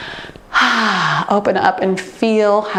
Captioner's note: sighs